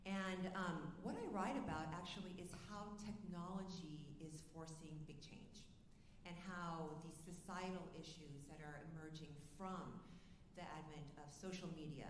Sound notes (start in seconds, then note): none